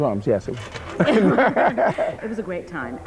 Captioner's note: laughing